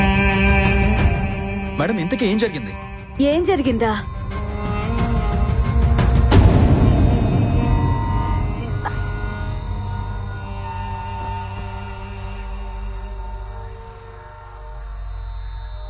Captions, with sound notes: Madam, But what happened what happened.. (Breathing)